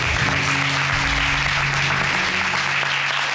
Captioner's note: audience applauding